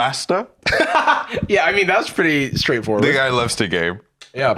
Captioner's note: laughs